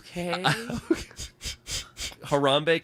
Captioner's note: Trevor laughs